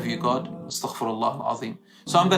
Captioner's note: Arabic